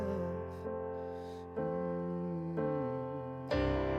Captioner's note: humming